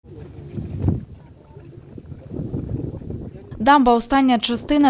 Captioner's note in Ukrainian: звуки вітру